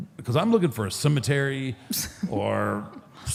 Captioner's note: Michelle laughs